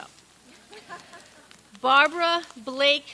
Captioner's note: people laugh